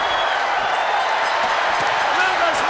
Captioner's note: crowd cheers and boos; bell rings